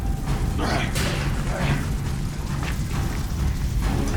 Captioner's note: Jack grunting